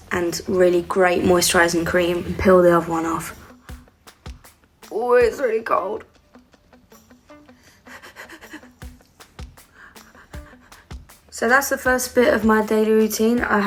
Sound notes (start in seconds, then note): 7.8 panting